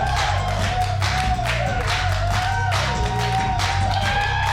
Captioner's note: crowd continues to cheer